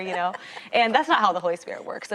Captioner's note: laughing